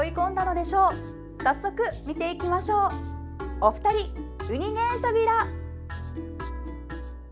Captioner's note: in Okinawan